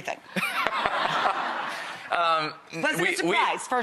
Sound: audience laughter

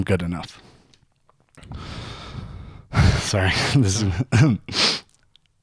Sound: deep sighing; clears throat

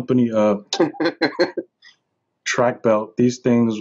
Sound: laughs

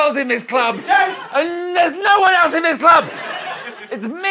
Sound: struggling

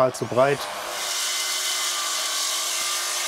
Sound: loud whirring

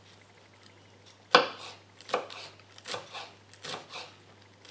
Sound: slicing and chopping

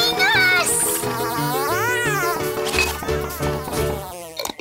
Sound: angry buzz

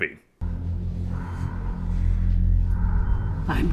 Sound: heavy breathing

